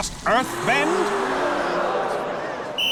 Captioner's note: gasping; whistle blowing